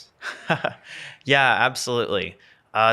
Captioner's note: laughs